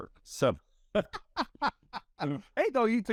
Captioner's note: laughing